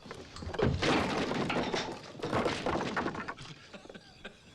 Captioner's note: chair clatters; blow thumps; laughing